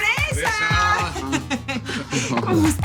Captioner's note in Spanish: Risas